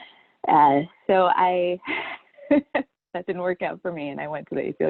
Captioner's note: chuckles